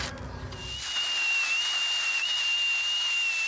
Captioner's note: whirring noises